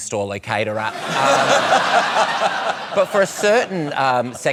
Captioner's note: laughter